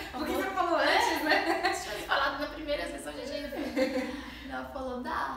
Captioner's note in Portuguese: risos